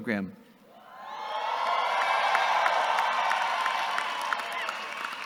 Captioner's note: audience cheering and clapping